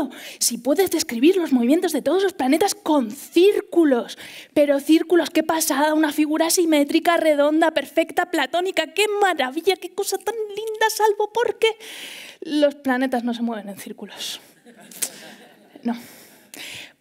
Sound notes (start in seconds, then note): 14.5 laughter